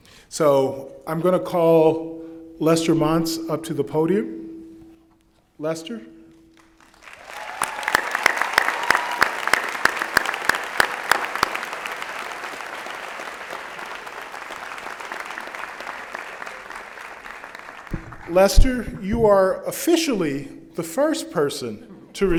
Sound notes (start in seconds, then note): 6.6 applause